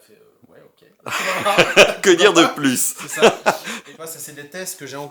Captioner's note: laughter